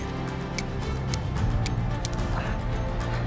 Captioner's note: striking flint